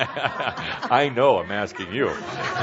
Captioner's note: laughs